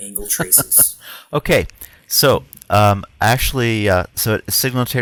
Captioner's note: chuckles